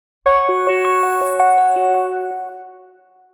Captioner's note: logo chiming